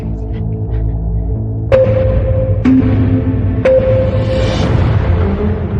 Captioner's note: countdown sound effects